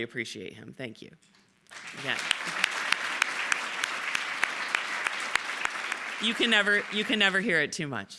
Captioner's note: applause